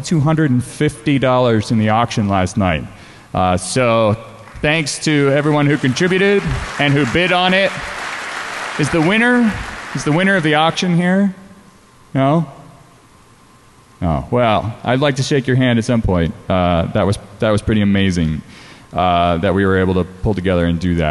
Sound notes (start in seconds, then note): 4.4 applause